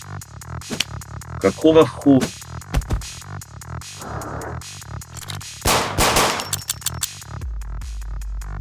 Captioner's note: sound of a gunshot